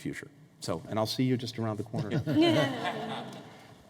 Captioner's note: laughter